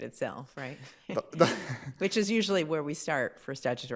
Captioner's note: laughs